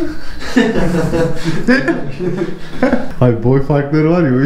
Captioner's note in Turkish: Gülüşmeler